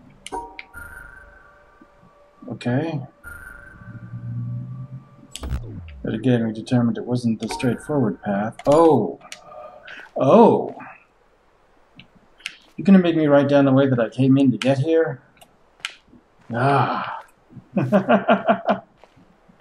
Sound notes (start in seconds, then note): 17.7 chuckles